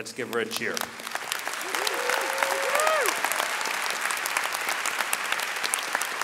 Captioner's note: audience cheering and clapping